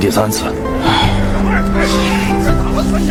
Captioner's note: sigh